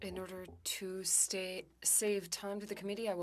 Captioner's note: speaking French